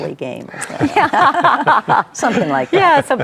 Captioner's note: group laughs